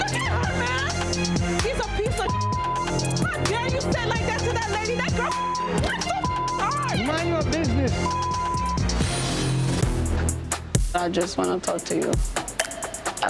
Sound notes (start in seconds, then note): 2.2 beep; 4.8 beep